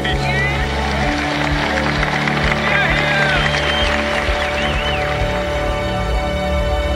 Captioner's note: crowd cheering; crowd applauding